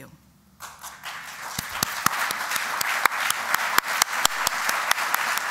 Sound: applause

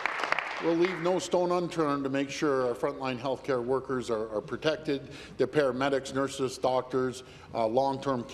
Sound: applause

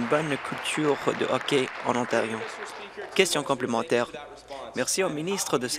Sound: applause

